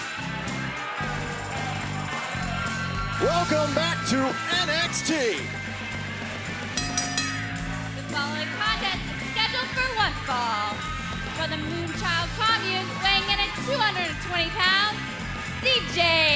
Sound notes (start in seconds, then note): 0.0 crowd cheering; 6.8 bell ringing